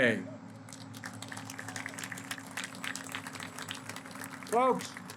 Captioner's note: applause